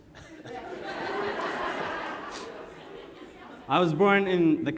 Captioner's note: audience laughs